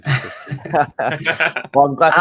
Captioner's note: people laughing